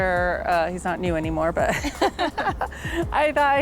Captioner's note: both laughing